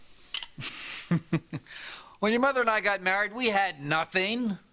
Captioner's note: chuckles